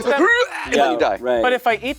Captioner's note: makes silly noise